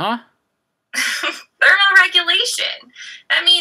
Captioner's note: laughs